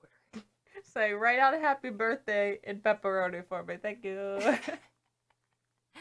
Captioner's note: both laugh